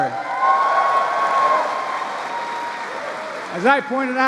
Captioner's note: applause